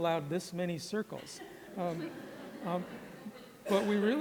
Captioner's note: laughter